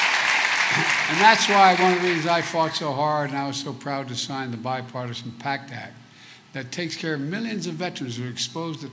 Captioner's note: applause